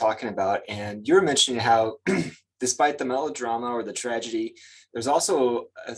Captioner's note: clears throat